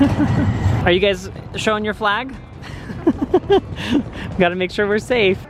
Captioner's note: laughs